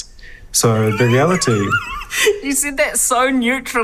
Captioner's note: Alice laughs